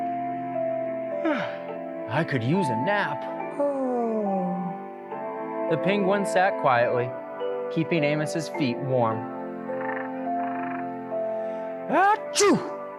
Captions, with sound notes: I could use a nap. [yawning noise] The penguin sat quietly, keeping Amos' feet warm. "Ah-choo!"